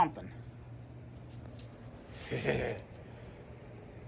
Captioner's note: giggles